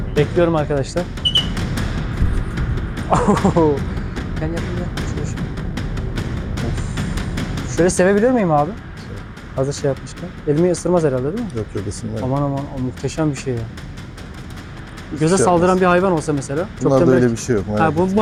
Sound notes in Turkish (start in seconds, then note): 1.1 Islık sesi; 2.2 Aksiyon müzik